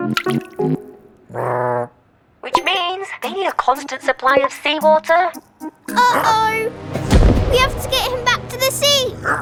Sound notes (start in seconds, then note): 0.0 droplet plops; 1.3 Big Lizard grumbles; 6.4 Big Lizard grunts; 9.2 Big Lizard grunts